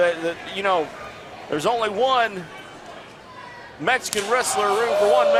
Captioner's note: slap